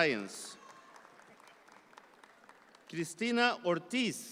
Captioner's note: audience applause continues